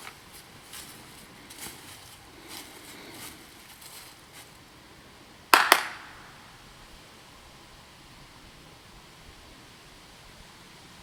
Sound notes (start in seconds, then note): 0.0 leaves crunching; 5.5 claps